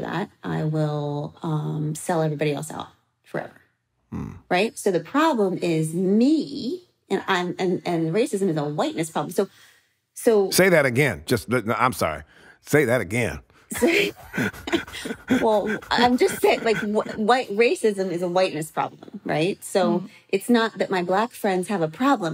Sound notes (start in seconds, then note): 13.7 laughing